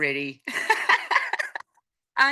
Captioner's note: laughing